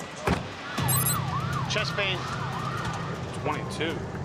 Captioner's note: siren blaring